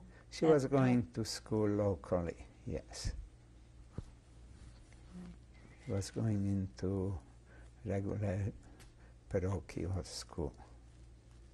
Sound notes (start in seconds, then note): 2.8 pauses for 3 seconds